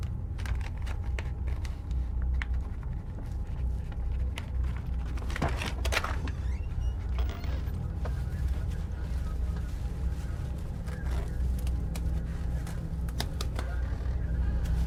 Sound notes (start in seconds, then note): 0.2 tense music continues; 5.5 door clicking; 10.3 tense music continues